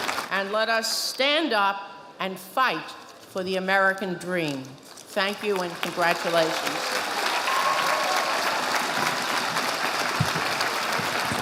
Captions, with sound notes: And let us stand up and fight for the American Dream. Thank you and congratulations. (audience applauding)